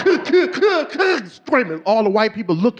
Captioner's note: sobbing